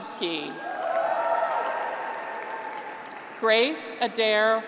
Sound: graduates cheer

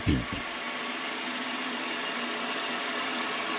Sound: soft whirring

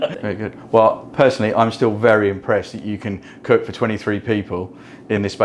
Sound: laughter

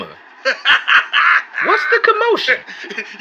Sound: laughs

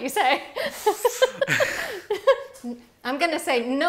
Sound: laughing

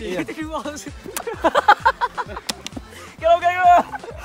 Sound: laughs

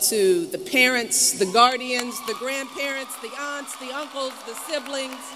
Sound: applause

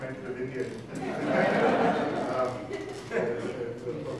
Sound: audience laughing

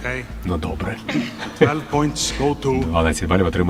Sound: laughs

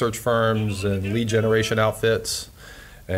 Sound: ringtone goes off

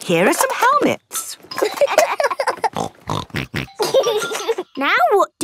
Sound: laughing; snorting

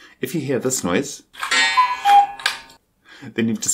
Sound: sound of a coocoo clock

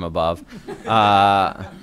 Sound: laughter

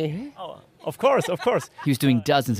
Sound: laughs

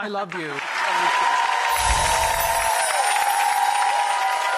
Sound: audience cheers

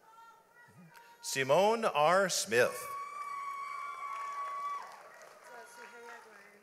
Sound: audience applauds

